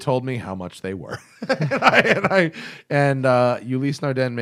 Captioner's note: laughter